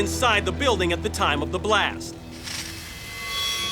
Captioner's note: none